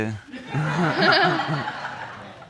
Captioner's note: laughing